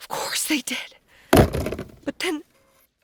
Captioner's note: loud thuds